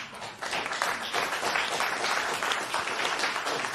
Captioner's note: applause